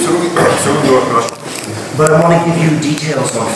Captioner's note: speaking in a foreign language